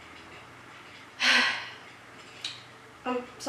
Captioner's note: impatient sigh